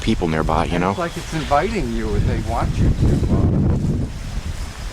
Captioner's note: wind